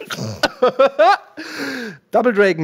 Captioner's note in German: Gelächter